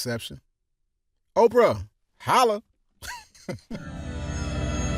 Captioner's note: delighted laugh; dreamy electronic music break